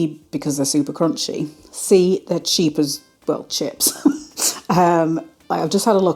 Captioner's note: laugh